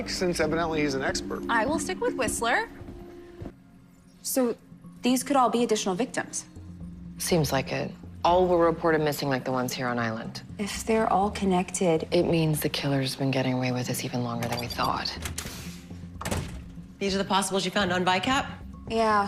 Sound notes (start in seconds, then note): 14.3 door opens